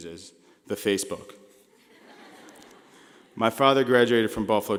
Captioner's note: laughing